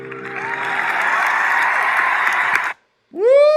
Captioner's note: audience cheering